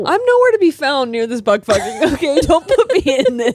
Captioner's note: all laughing